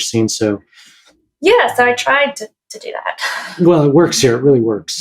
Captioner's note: chuckles